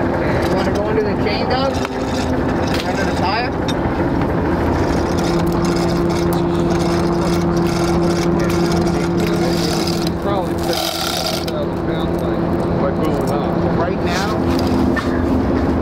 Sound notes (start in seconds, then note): 6.7 crew murmurs